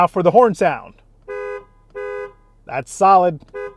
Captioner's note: honking sound